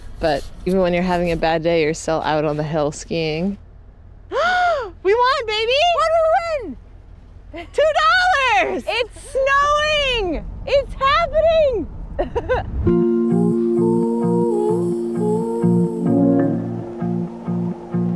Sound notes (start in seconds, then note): 4.4 gasps; 12.3 laughs; 12.8 laid-back music; 13.3 singer vocalizing